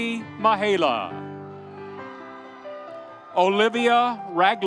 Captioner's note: audience cheering